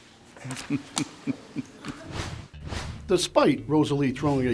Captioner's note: man laughs